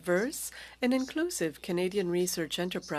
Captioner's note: speaking French